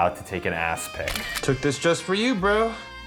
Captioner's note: camera flickers